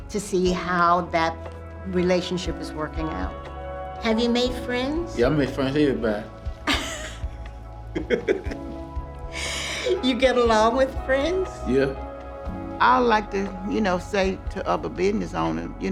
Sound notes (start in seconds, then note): 7.9 giggles